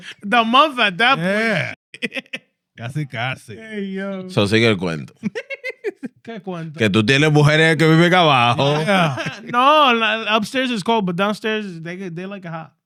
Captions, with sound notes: The month at that point, (Speaking Spanish) (Laughter) (Speaking Spanish) No. Upstairs is cold, but downstairs, they like a hot--